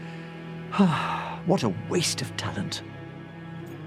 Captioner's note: sigh